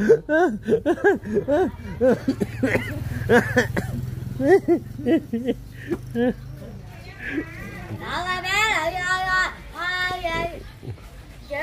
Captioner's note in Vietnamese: Tiếng cười